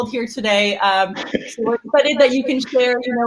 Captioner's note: laughs